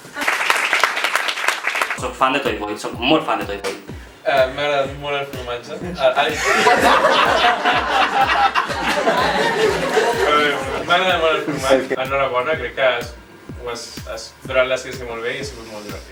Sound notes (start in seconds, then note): 0.0 applause; 6.2 laughs